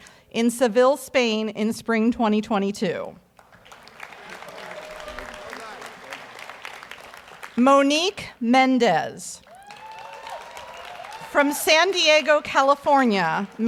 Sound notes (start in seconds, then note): 3.4 audience applauds; 9.4 audience cheers and applauds